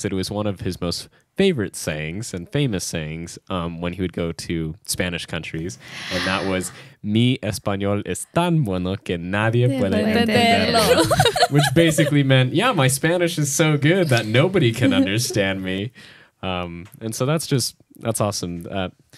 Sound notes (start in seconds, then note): 6.7 speaks in Spanish; 10.1 speaks in Spanish; 10.3 laughs